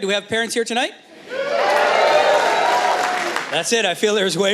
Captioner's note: soft Cheering